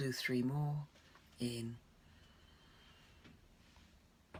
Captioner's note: inhaling